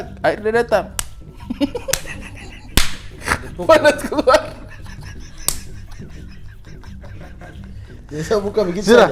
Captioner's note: laughing